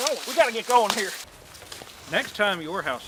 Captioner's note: boots crunching